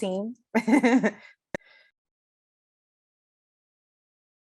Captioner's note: laughs